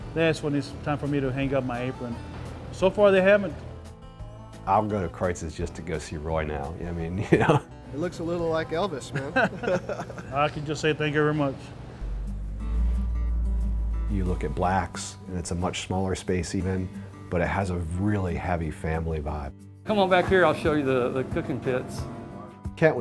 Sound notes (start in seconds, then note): 9.1 laughter